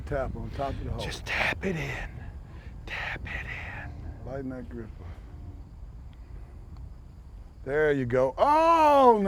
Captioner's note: whispering